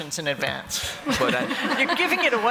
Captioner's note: laughter